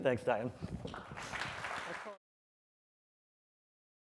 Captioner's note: applause